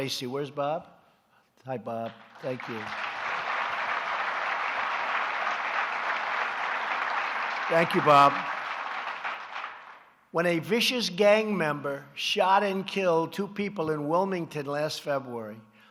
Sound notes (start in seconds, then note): 2.0 applause